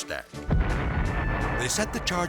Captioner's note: explosives booming